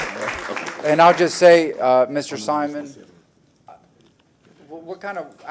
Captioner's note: applause